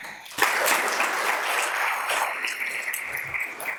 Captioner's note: audience applauds